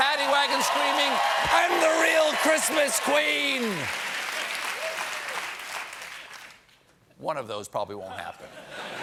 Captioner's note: cheers and applause